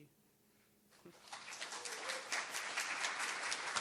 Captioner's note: applause